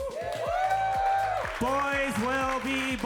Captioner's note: audience cheering